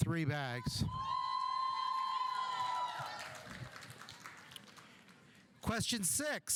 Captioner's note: audience whooping; audience applauding